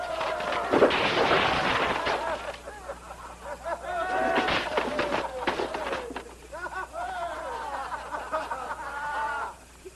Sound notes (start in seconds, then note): 2.0 laughter; 6.4 all laughing and shouting